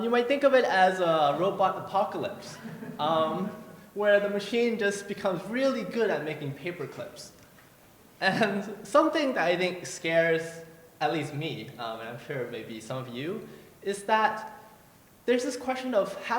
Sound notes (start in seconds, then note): 2.5 laughter; 8.5 laughs